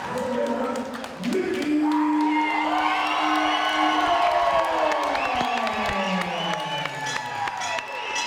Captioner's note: applause